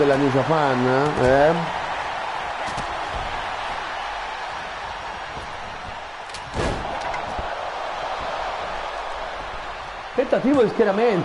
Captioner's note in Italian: Applauso